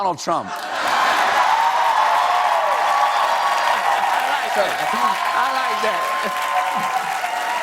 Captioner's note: cheers and applause